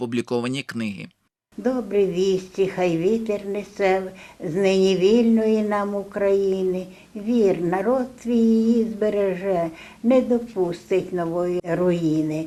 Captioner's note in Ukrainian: декламує свій вірш